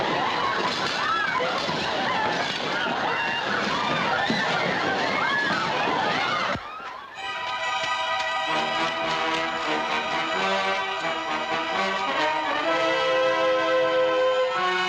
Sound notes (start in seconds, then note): 1.3 furniture clattering; 5.9 shouting continues; 9.6 tense music